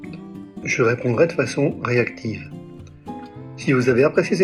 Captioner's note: in English, of course